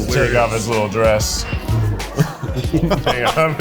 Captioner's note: laughs